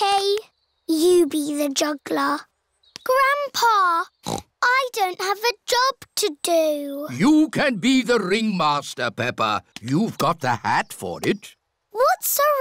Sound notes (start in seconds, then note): 4.2 snorts